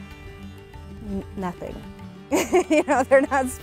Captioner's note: laughs